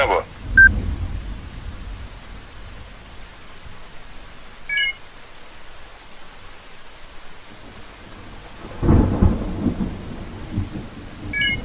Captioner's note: rain and Storming